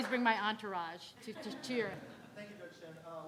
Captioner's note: audience laughing